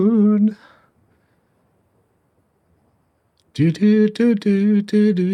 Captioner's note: humming